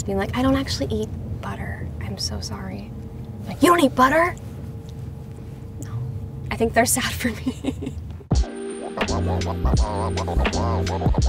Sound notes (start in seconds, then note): 7.2 Madelaine laughs; 8.3 upbeat music